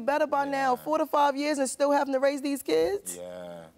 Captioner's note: none